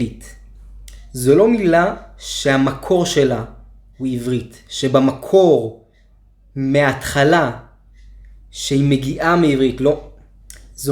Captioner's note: עִבְרִית - ivrìt